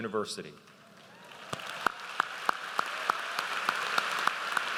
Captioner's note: audience applauds